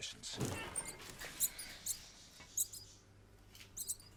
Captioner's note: rats squeaking